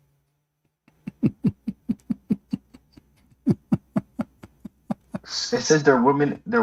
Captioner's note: Ketawa